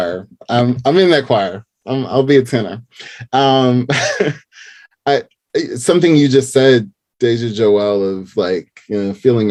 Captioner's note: laughing